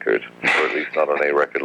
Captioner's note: laughs